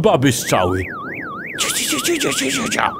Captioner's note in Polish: alarm